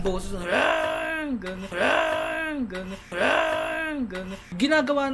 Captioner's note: shouting intensifies